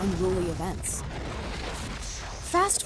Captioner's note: fire roaring